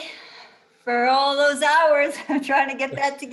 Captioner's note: giggles